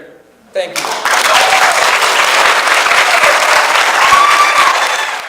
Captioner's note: audience applauds